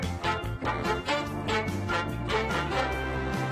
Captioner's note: laughing